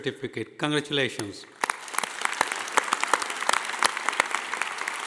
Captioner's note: audience applauding